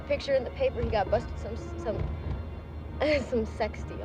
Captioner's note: stammering